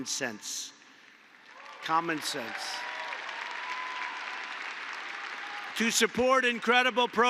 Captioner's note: applause